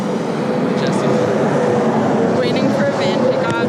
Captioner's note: car engines roaring